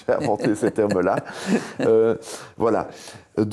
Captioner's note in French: rires